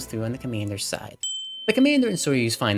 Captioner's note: windChime